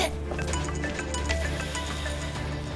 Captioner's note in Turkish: Telefon çalıyor